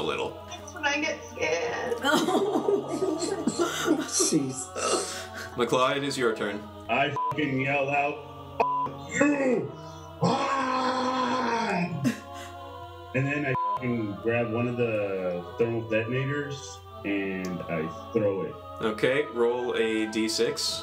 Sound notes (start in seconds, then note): 10.2 roars